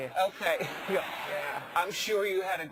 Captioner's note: laugh